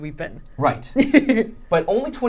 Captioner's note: laughing